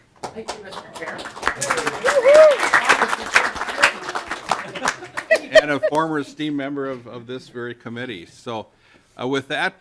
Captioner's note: clapping